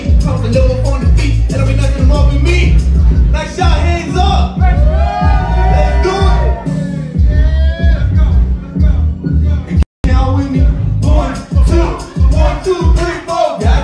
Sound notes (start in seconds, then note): 4.6 crowd cheers